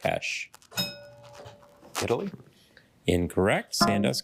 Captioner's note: bell dings